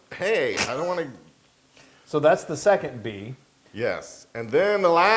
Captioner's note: laugh